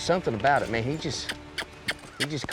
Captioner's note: smacking sound